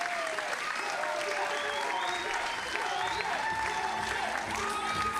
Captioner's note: audience chanting; upbeat music